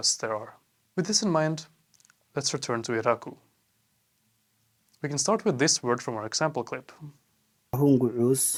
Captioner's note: iraqw speech